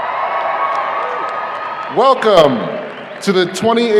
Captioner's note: audience cheering